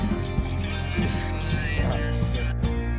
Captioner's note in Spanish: riendo